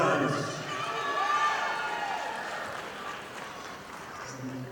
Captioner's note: audience applauding